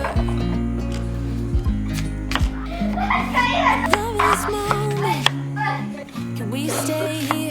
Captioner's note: cries